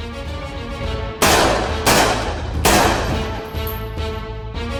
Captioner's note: gunshot